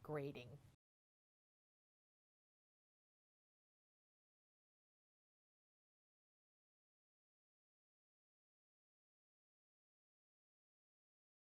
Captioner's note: no Sound Present